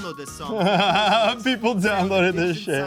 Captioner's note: laughing